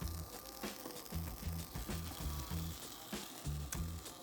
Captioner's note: pitas sizzling